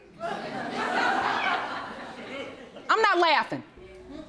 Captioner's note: audience laughs